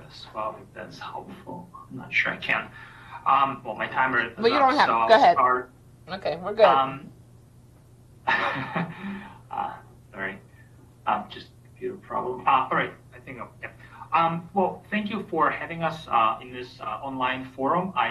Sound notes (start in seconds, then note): 8.2 chuckles